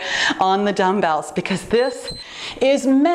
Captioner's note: timer beeps